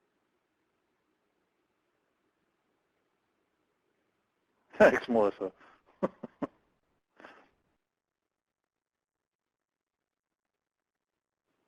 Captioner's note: laughing